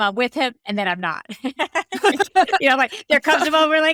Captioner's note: laughing